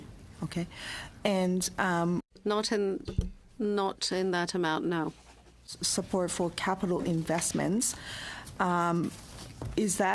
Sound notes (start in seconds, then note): 4.0 speaking French